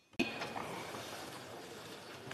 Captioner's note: speaking French